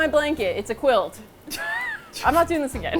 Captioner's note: wheezes; laughs